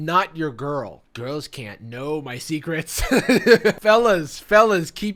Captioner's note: laughing